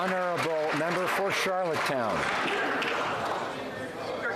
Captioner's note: some Applause